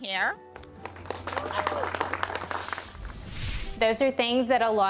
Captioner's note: applause